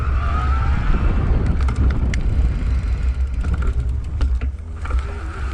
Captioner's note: clunking